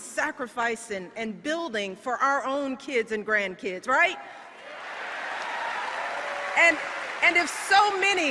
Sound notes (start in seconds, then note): 4.6 applause